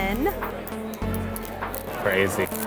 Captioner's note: clicks pen